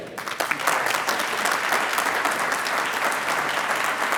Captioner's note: applauding